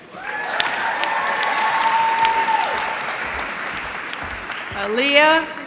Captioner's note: applause